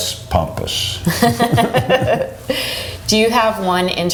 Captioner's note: laughs